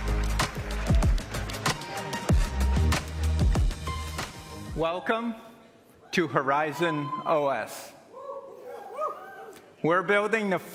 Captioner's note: applause